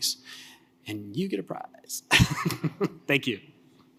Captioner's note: laughs